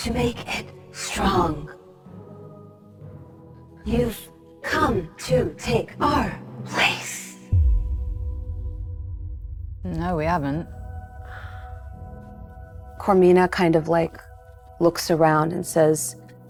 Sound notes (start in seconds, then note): none